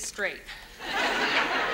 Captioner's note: audience laughs